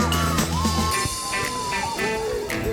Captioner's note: cheering